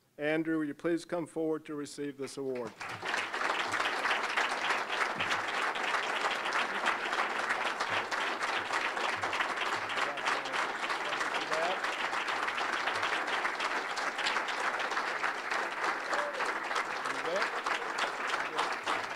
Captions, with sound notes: ANDREW, WOULD YOU PLEASE COME FORWARD TO RECEIVE THIS AWARD? (applause)